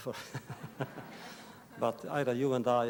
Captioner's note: laughter